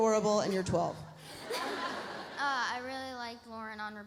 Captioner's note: girl giggles; audience laughs